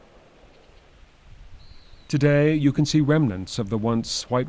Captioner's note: wind